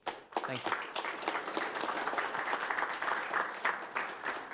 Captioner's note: applause